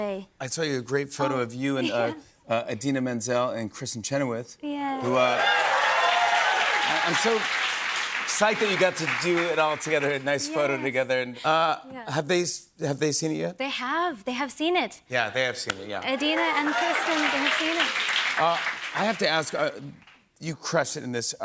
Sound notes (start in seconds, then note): 5.0 cheers and applause